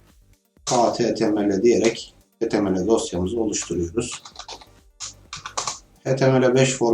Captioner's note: clock